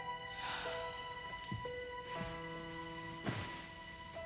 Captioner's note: sighing